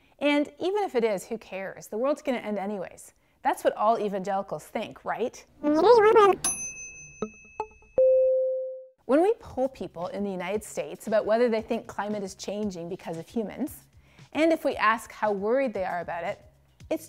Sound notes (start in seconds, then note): 6.4 dinging